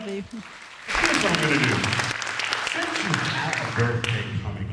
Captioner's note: applause